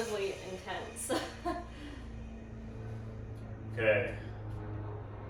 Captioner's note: chuckles